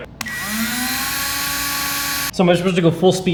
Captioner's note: drill buzzing